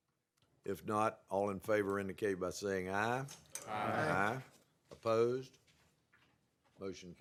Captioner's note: chorus of ayes